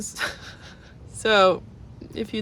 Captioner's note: laughs